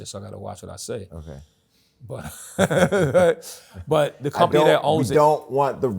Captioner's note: laughs